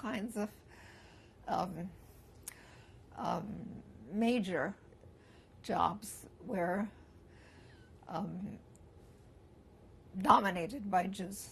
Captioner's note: pauses for 3 seconds